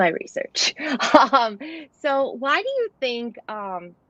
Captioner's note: laughter